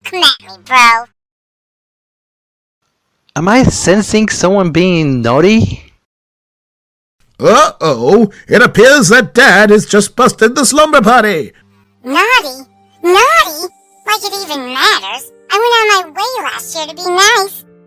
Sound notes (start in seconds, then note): none